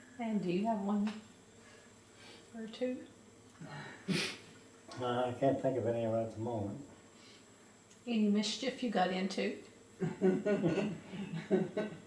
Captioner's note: laughter